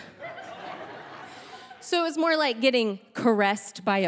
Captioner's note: audience laughing